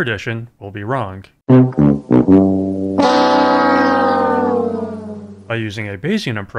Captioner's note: losing sound effect